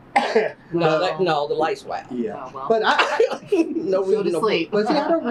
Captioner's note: laughs